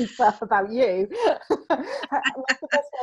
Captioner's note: both laughing